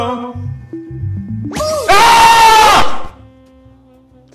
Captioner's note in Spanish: grita